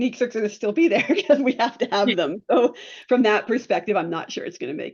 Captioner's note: laughs